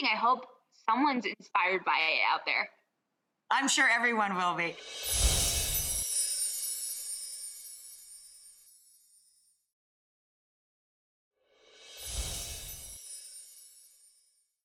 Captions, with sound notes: I hope someone's inspired by it out there. I'm sure everyone will be. (gently chiming bells)